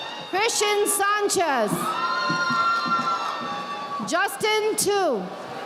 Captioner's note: audience applauding